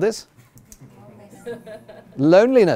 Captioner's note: chuckling